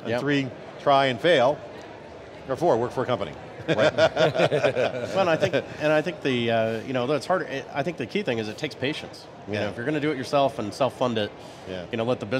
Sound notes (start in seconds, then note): 3.6 laughs